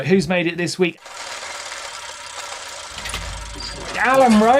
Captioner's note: gears grinding